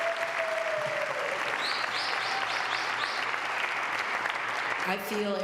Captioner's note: applause